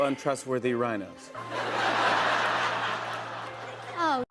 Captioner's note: laughter